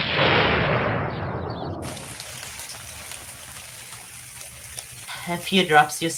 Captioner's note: thunder crashes. Rain pours